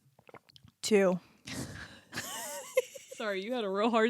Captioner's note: both laughing